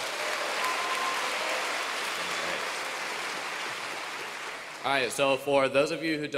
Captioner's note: applause